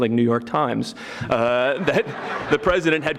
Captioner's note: audience laughing